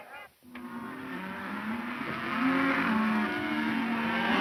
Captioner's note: cattle moaning